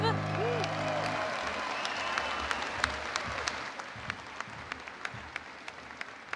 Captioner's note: crowd cheering and applauding